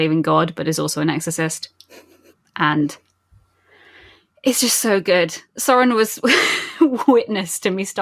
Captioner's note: laughing